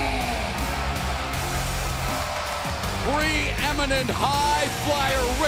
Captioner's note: cheers and applause